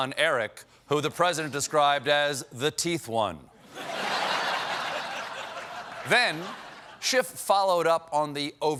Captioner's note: laughter